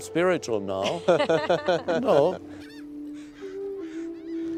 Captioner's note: all laugh